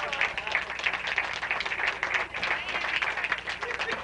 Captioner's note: applause